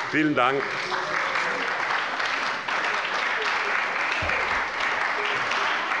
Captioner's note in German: Beifall bei der SPD und der FDP